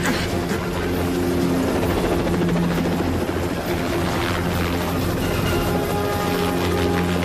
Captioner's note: helicopter blades whir